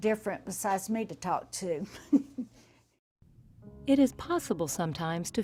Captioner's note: chuckles